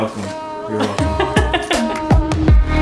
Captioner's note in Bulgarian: се смее; оптимистична музика